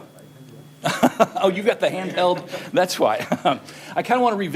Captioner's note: laughter; laughter